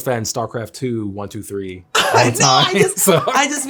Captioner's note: laughs